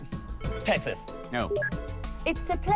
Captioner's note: beeps